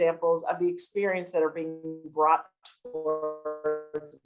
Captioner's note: tape distortion